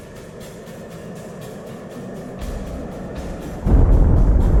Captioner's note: explosion rumbles